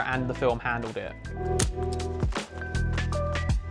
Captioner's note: camera shutter